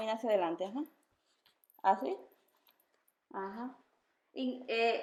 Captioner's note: in foreign language